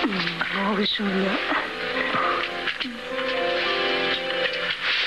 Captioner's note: door Opening